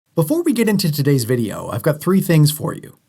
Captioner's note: voiceover